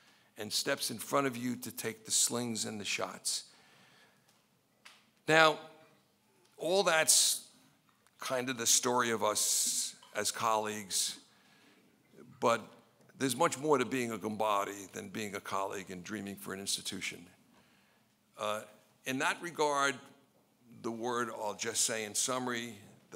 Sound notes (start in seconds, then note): 14.1 speaking in foreign language